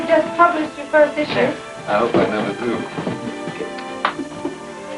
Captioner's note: kiss